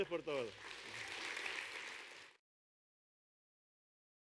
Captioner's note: audience claps